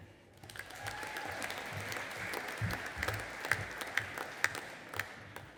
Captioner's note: audience applauding and cheering